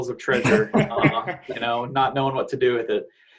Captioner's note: panel laughing